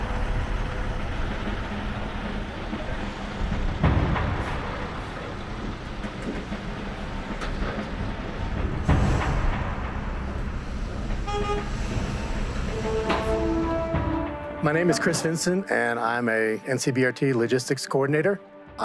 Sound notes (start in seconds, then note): 0.0 18-wheeler engine noises; 7.9 truck honks; 11.7 breaking, door opens